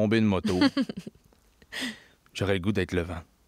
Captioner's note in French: rire